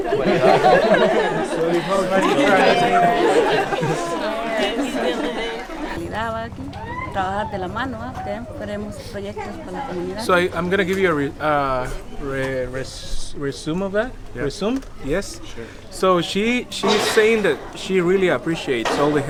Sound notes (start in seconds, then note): 0.0 laughing; 3.4 laughing; 6.5 speaking foreign language